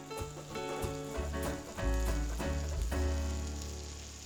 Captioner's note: butter sizzles